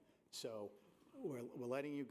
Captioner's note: none